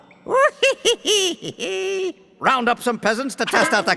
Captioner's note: laughing